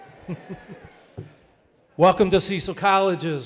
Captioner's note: person laughing